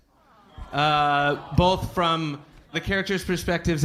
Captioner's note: audience awwing